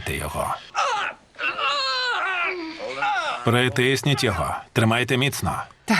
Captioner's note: screaming